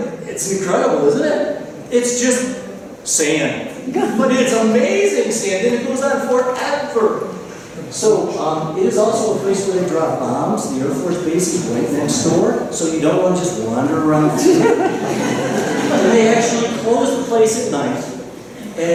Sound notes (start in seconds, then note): 14.2 laughter